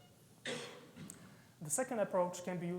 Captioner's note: audience member coughing